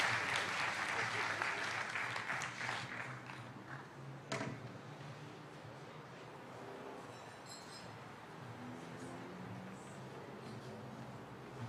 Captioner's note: cheering and applause